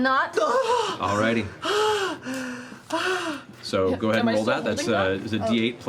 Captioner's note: gasping